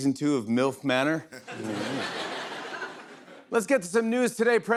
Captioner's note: laughter